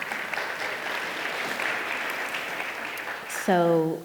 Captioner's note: audience applauding